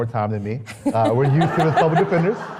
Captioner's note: laughs